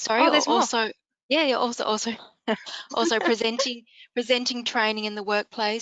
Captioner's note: chuckles